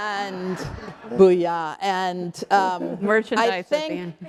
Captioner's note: laugh